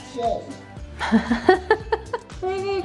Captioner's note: laughs